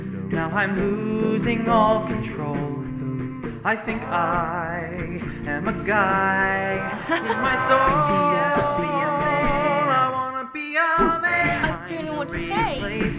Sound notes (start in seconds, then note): 6.8 laughing